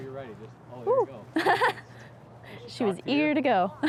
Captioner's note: laughter